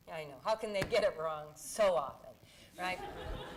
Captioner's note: laughter